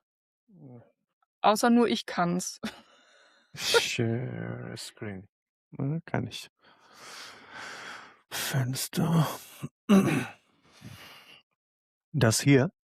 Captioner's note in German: seufzt; räuspern